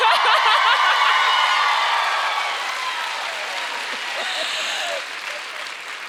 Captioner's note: audience cheering and applauding